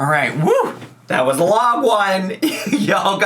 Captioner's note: laughs